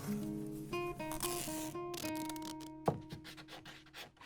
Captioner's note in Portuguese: Ruído de fita